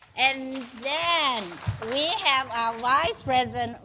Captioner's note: clapping